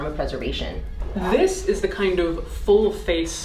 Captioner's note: air whooshing